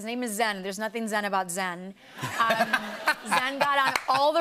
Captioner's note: laughter